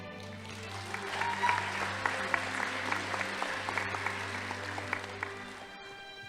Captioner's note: crowd cheering; audience applauding